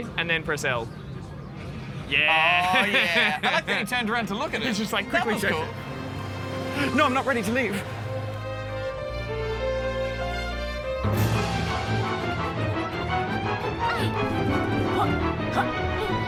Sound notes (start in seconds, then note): 4.9 laughs; 13.8 laughs